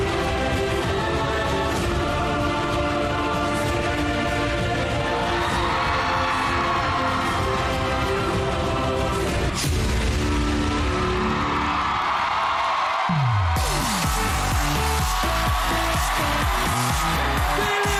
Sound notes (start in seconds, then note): 10.7 crowd cheering, applauding; 13.4 upbeat music playing